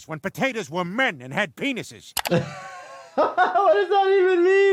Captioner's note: laughing